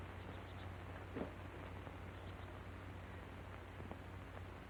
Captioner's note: birds tweeting